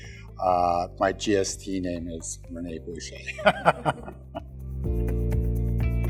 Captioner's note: laughs; gentle music